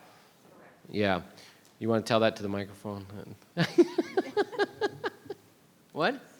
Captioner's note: laughs